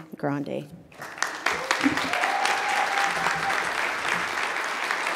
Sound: audience applauds

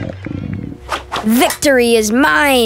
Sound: tummy Gurgles

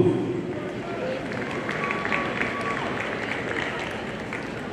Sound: audience applauding

